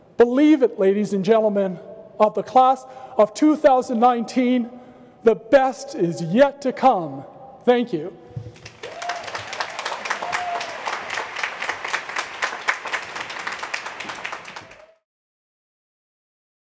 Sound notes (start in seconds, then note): 8.4 applause